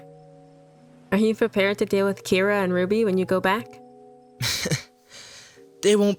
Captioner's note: chuckles